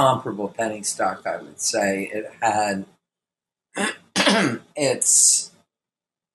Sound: coughs

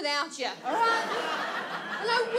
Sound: audience laughs

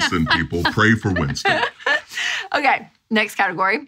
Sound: laughing

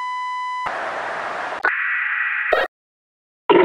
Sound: static

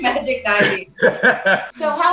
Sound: laughing

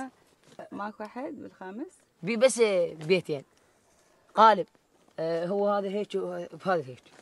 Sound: group speaking in foreign language continues

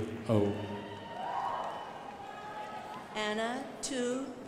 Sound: crowd applauding

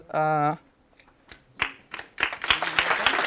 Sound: applause

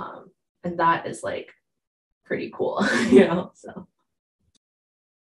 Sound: laughs

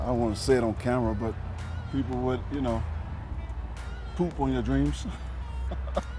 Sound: laughs

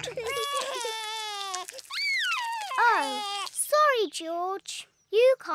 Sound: cries; screams

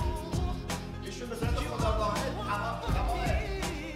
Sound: speaking in farsi

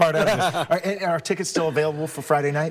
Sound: laughs

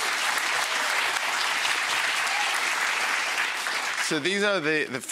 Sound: audience clapping

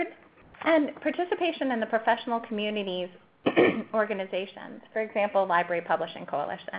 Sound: cough

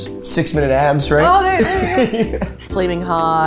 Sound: laughing

